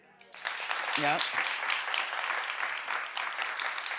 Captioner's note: audience applauds